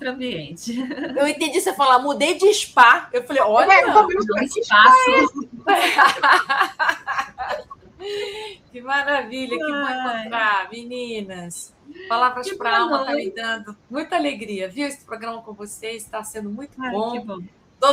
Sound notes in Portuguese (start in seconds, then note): 5.0 risadas; 7.9 suspirando